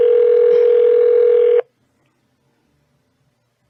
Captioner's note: phone still ringing